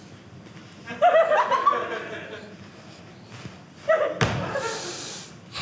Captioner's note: audience laughing